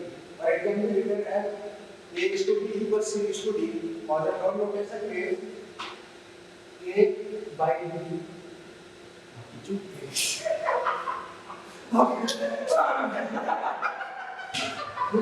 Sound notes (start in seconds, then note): 10.4 audience laughs; 12.2 laughter intensifies